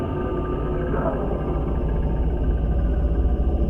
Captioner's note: distorted voice